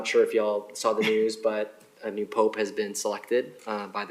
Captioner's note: laughter